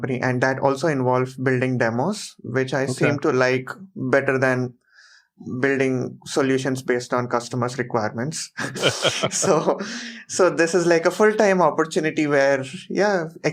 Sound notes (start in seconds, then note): 8.6 laughs